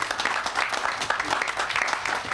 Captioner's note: audience applauding